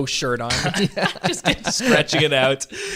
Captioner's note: laughing